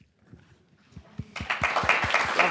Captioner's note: applause